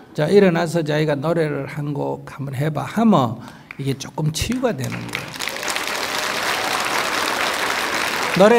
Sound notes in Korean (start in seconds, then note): 4.8 청중 박수